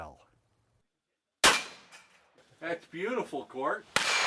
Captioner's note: gun shots